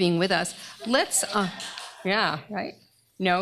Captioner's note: applause